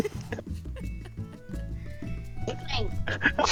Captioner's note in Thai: หัวเราะ